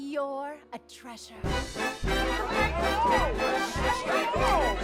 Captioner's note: lively chatter; lively music playing